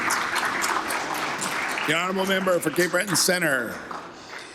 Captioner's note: applause